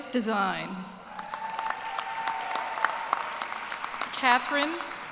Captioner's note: cheers and applause